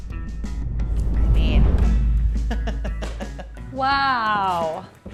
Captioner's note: giggles